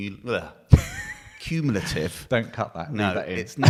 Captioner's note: laughing